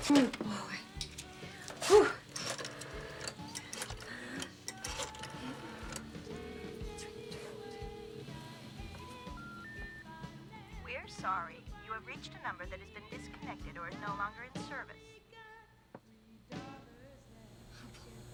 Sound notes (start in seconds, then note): 6.8 telephone ringing; 9.8 beeping